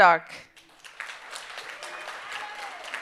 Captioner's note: audience applauding and cheering